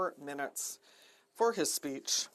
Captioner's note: speaking FRENCH